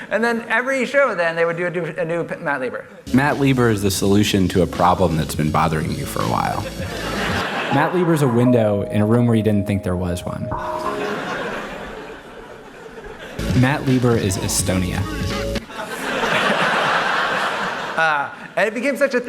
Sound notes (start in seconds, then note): 15.6 laughter